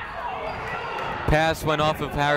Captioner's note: people shouting in the crowd